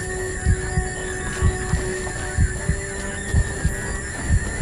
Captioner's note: tone droning